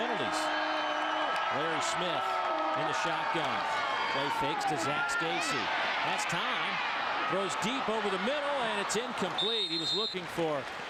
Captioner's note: crowd noise